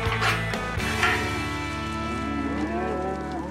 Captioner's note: mooing